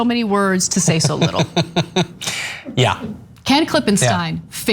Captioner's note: laugh